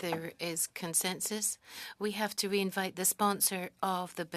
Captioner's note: speaking French